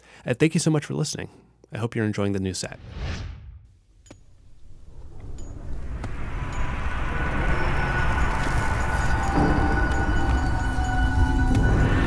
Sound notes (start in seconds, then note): 4.1 digging noises fade in